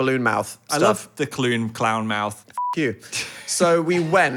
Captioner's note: beep